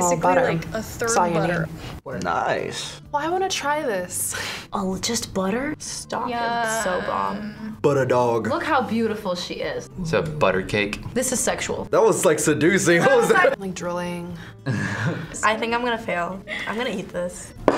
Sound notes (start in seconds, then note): 12.9 laughs